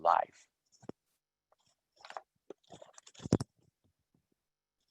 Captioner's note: gentle rustling